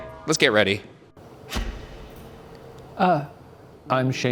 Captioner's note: lights clicking